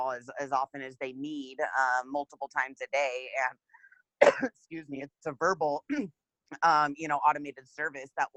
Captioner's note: coughs